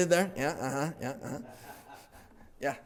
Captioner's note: laughter